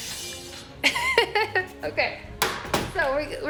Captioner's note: dramatic music; laughs